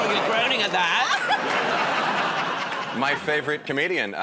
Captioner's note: laughter